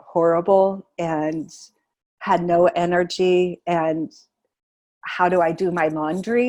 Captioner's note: laughing